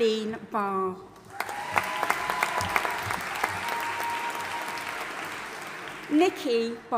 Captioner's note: audience applauding and cheering